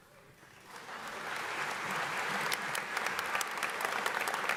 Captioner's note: audience applauds